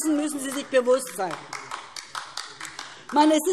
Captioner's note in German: Beifall DIE LINKE